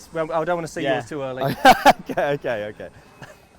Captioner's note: Day laughing